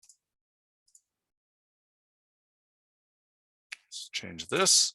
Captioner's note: mouse clicking continues